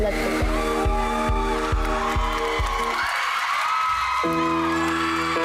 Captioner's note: audience cheering